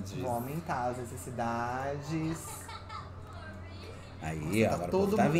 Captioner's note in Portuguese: Sims conversam